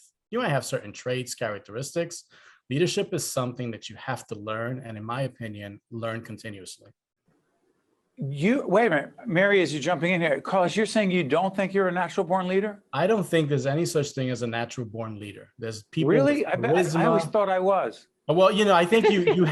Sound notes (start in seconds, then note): 18.8 laughing